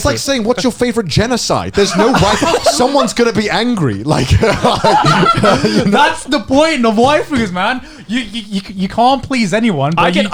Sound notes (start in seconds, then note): 3.8 laughs